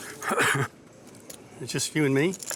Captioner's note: cough